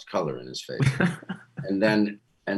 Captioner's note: laughing